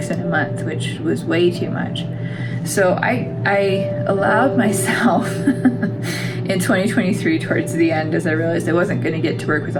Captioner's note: laugh